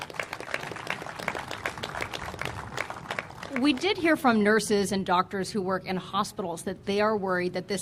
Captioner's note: applause